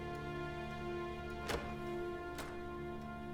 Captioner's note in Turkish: Kapı açılma sesi